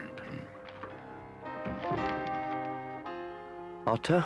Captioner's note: door knock